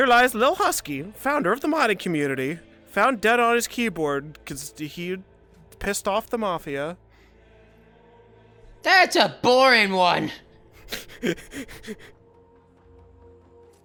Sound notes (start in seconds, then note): 10.5 laughing